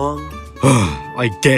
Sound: sigh

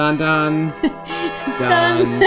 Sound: bells chiming

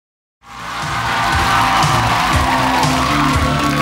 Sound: applause

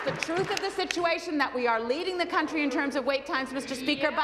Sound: applause

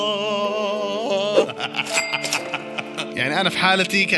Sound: laughter

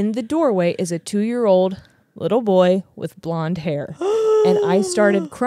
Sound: gasps

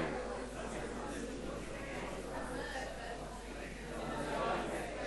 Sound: audience chattering

